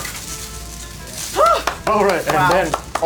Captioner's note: clapping